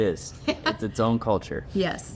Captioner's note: laughing